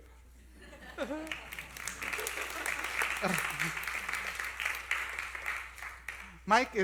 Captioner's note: applause